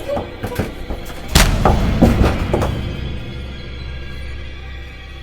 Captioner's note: head thudding